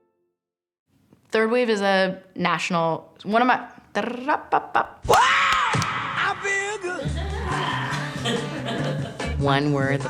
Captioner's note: makes funny sound